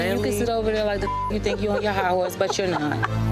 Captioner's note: beep